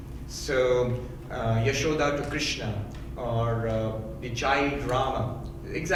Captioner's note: speaking in foreign language